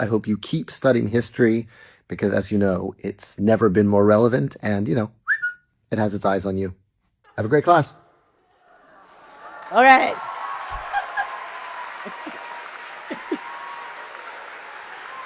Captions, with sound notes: I hope you keep studying history because, as you know, it's never been more relevant and you know, (whistles) it has its eyes on you. Have a great class. - All right. (audience cheers)